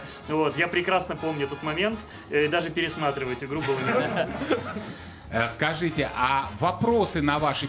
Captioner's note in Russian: смех